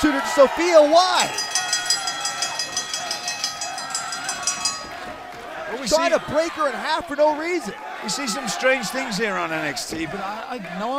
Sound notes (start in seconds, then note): 5.6 bell ringing